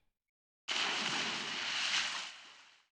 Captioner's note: splash